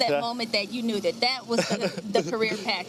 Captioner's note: laughing